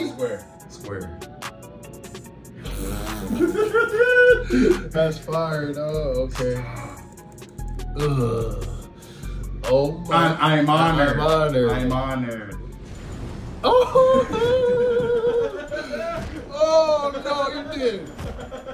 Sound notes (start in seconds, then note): 3.1 laugh; 13.7 laugh